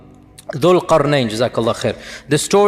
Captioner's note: Arabic